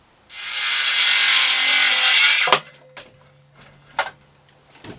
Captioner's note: saw whirring